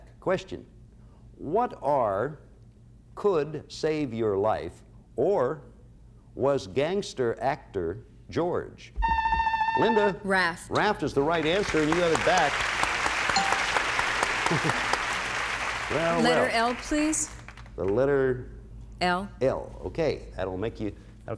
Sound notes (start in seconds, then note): 9.7 buzzer sounds; 12.7 applause; 13.3 bell rings